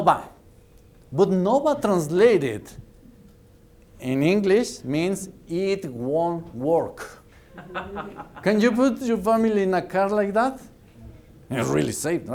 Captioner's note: laughter